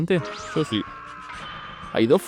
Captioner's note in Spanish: Piccolo: *gritos de agonía